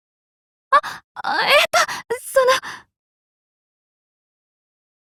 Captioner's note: gasp